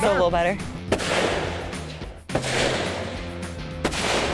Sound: multiple gun shots

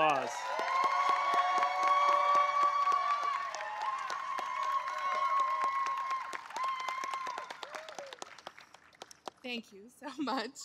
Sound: applause

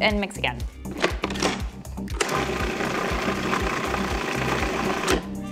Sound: food processor whirs

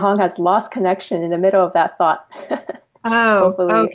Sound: laughing

